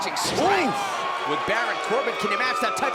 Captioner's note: crowd chatter